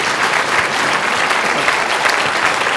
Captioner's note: applause